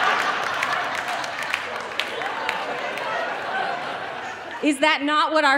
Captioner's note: audience laughing